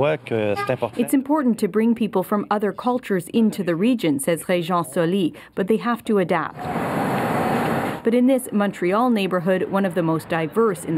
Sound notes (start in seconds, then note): 6.8 speaking French